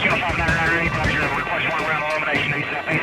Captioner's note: radio chatter